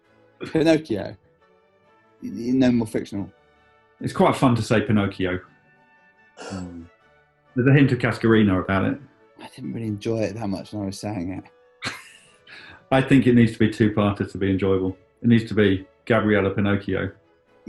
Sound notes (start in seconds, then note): 6.4 gasps; 11.8 giggling